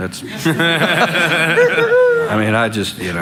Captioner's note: laughing